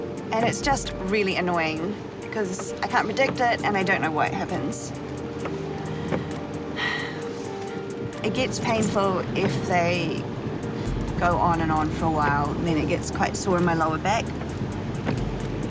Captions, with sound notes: and it's just really annoying because I can't predict it, and I don't know why it happens. (SIGHS) It gets painful if they go on and on for a while, and then it gets quite sore in my lower back.